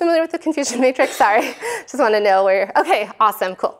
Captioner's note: laughter